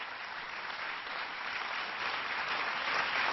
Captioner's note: applause